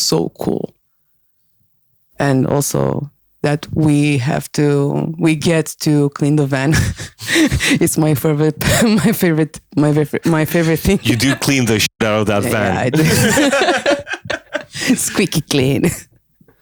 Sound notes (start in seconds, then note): 10.3 laughs